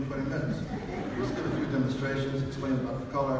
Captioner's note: audience laughs